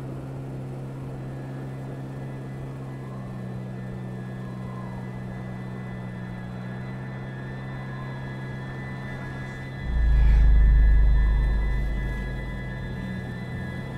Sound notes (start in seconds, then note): 3.5 suspenseful music; 3.5 wind whistles; 9.9 man sighs